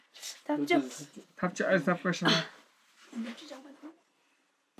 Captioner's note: speaking in foreign language